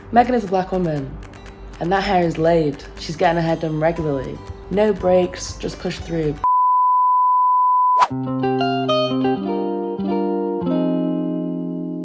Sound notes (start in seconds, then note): 6.5 beep; 8.3 gentle music